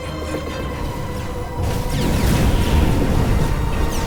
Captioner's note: ships firing